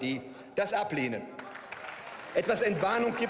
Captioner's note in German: Beifall und Zwischenrufe